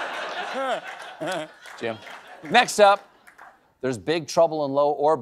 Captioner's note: laughter